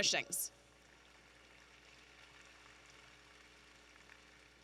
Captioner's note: audience applauding